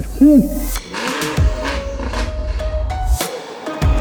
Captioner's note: hoots; engine revving; hip hop music